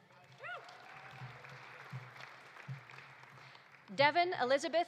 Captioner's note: audience applauding